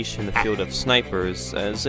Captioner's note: sniper chuckles